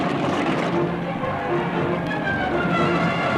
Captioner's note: neighing